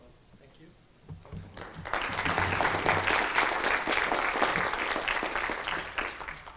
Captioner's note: clapping